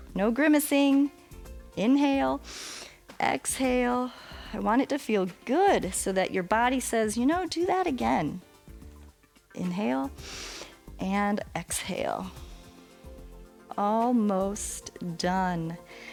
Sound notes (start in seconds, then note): 2.4 exhales; 2.4 inhales; 10.2 inhales